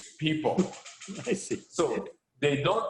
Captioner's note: laughs